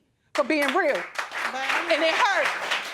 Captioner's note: audience applauding